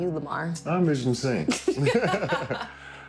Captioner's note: both laugh